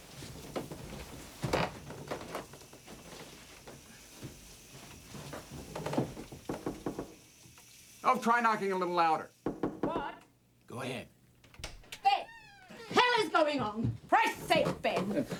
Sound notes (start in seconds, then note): 6.5 light tapping on door